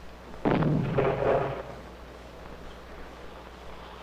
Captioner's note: bombs explode